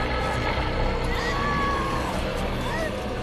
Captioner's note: urla